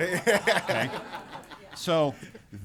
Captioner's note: laughter